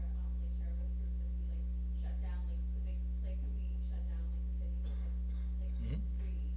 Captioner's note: speaking off mic